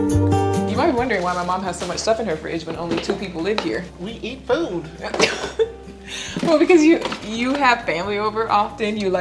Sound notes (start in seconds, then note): 4.4 laughs